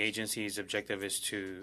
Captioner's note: speaking in French